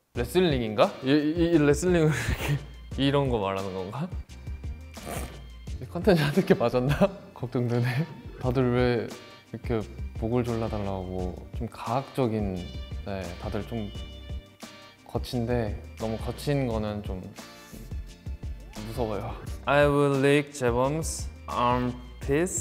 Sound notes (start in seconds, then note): 0.2 speaks Korean; 5.9 speaks Korean; 6.2 chuckles